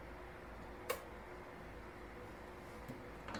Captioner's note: click